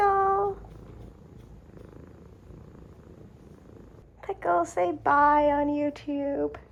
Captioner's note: Pickle purrs